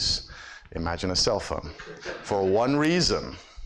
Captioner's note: audience laughs